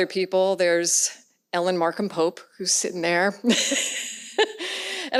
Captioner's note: laughs